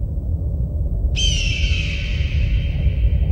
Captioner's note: eagle scream